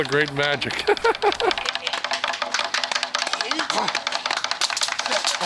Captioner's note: laughs